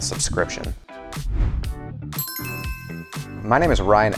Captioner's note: upbeat music; logo chiming